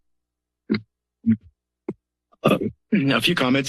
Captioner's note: silence